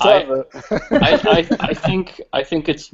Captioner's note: laughter